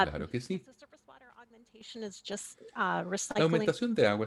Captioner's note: hablando inglés